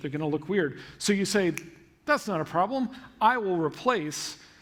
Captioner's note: snap